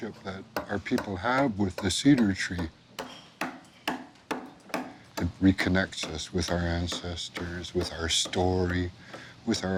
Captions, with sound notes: that our people have with the cedar tree. (hammering) It reconnects us with our ancestors, with our story,